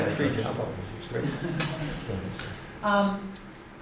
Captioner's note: laughter